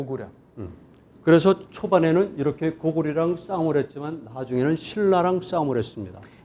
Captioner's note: speaking in Korean